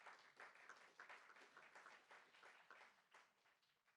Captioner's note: applauds